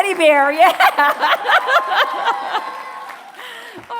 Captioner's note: applause